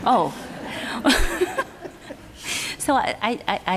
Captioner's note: laughter